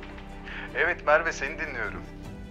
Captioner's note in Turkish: Hakan ses